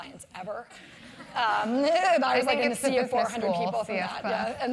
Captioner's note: laugh